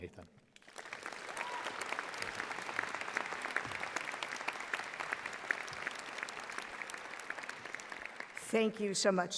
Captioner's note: audience applauding